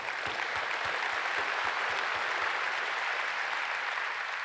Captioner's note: audience applauds